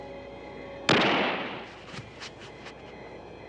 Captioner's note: gunshot